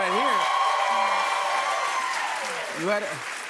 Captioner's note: cheers and applause